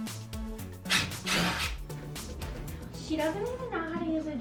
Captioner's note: upbeat music; drill whirring